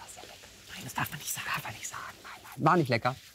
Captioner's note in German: flüstert